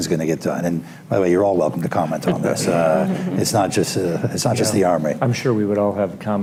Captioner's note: laughter